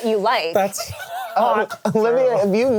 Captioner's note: all laughing